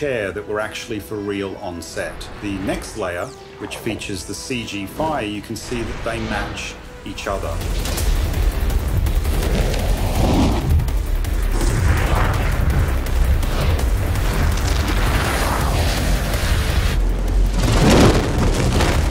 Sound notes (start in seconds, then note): 7.8 dramatic music; 9.7 fire whooshing